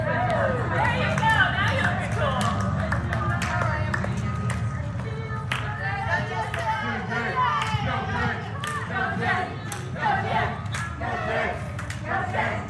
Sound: applause

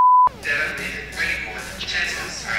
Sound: beeping

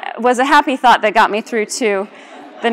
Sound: laughter

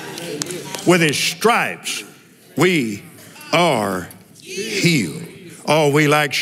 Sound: cheering

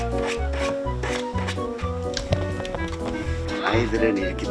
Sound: scratch Scratch

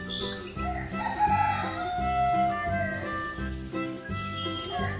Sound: rooster crows

